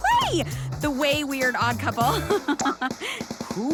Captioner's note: laughs